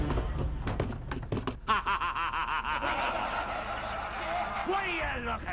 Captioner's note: all laugh; laughing